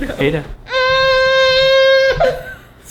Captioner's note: baby cry